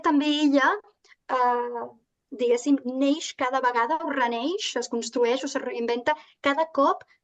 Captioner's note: continues speaking in Catalan